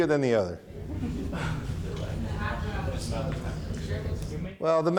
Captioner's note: audience chattering